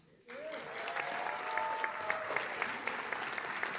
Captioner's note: audience claps